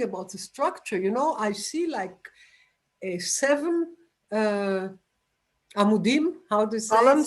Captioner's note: non-english